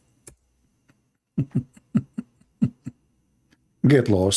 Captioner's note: Ketawa